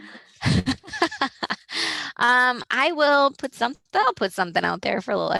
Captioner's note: laughs